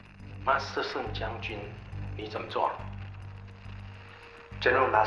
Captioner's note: speaking Chinese